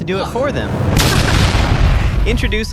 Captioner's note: loud explosion